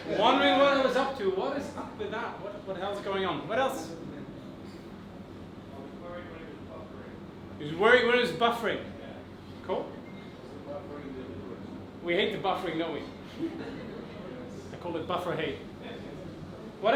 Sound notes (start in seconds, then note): 13.2 audience laughs